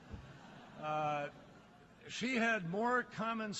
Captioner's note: laughter